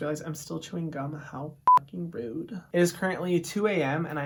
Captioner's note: beep